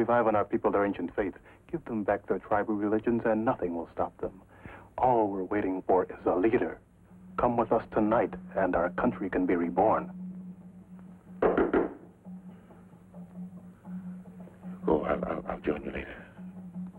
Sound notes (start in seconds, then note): 11.4 sharp knocking on door; 13.0 drums beating in the distance